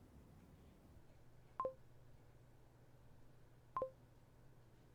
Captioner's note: computer bleeping